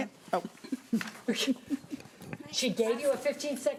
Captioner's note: laughing